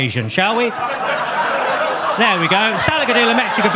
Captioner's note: audience laughs